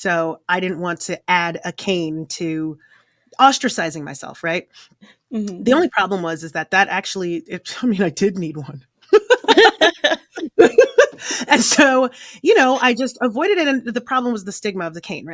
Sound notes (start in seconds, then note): 9.1 laughing